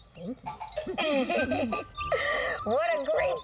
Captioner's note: laughing